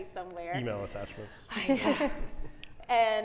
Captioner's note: chuckles